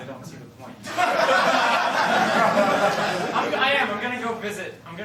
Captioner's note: laughter